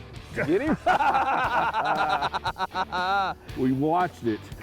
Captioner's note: laughter